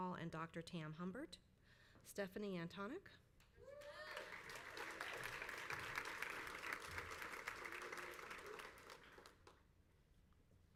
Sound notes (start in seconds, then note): 3.8 crowd applauds